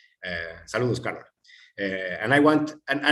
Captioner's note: non-english